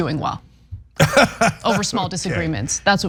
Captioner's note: laugh